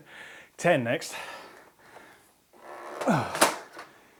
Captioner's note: grunting